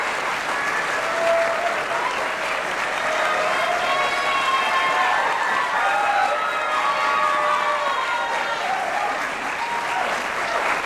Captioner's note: applause